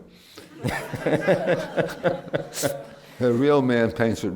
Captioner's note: laughter